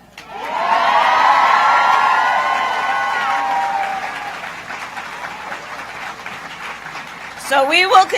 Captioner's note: applause